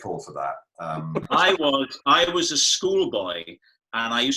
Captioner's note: laughter